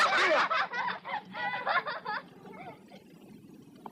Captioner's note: screaming and laughing